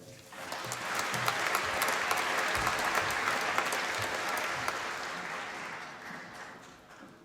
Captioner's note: applause